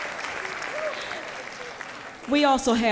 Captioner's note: applause